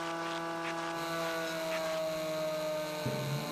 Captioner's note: motor whirring; revving